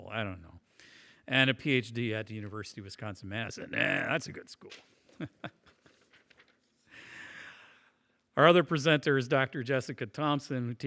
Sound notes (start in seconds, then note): 5.1 chuckles